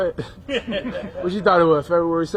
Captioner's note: laughing